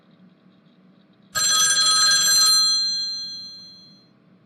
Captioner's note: phone rings